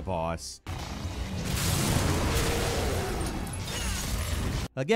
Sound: monster roaring

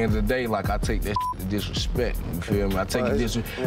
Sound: beep

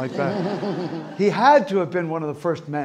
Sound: audience laughing

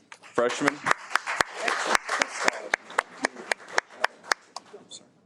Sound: audience applauds

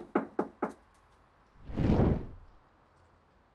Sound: knocking

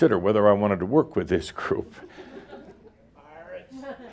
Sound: Adamus chuckles

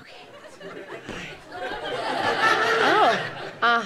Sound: audience laughter

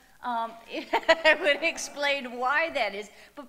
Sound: chuckles; audience laughing

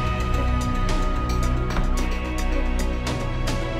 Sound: door closes

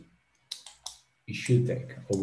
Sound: mouse clicking

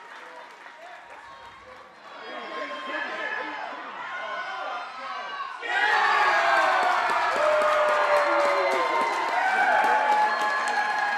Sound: audience cheers and applause

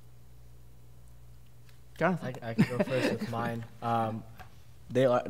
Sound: laughter

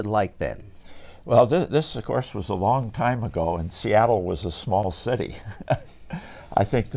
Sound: laughs

